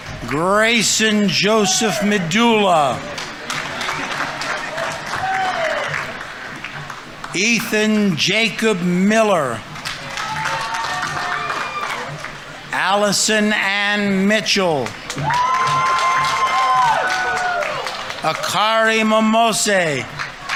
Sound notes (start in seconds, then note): 0.0 audience applauding; 0.2 audience members cheering; 3.3 audience applauding; 9.4 audience applauding; 9.8 audience members cheering; 14.3 audience members cheering; 14.7 audience applauding